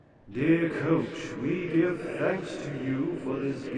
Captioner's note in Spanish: none